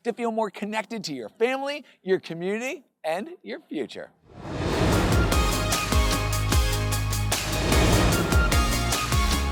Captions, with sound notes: to feel more connected to your family, your community, and your future. (graphics swoosh) (upbeat music)